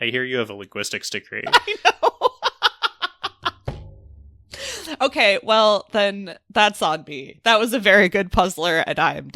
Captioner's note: laughs